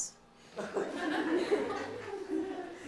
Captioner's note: laughter